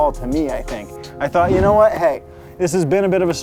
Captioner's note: air whooshing